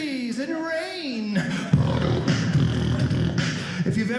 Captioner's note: beat boxing